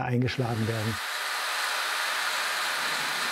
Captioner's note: drill whirring